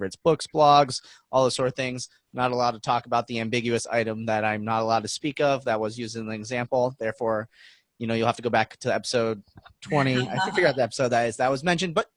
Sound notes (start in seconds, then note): 10.0 laughing